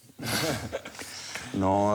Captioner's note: laughter